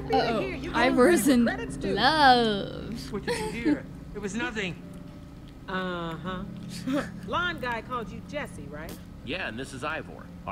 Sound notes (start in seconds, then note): 3.2 laughs; 6.9 laughs